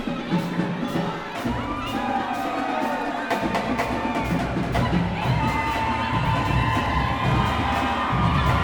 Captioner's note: crowd cheering